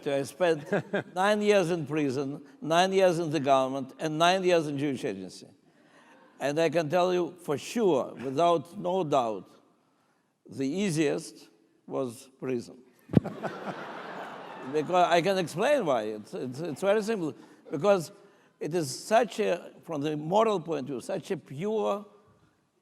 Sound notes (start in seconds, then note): 13.2 laughing